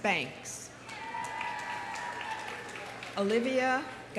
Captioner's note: audience cheering; audience applauding